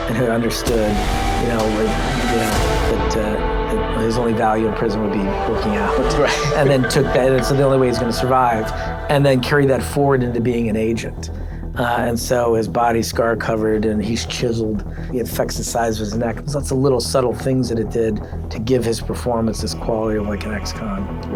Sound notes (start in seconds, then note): 5.2 laughs